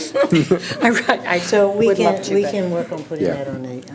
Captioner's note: laughing